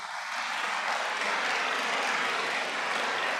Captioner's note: audience applauds